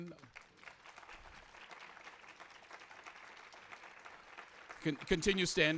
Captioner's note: applause